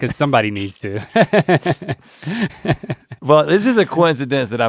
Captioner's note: Link chuckles